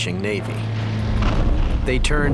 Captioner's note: explosion